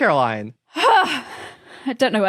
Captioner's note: sighs vocally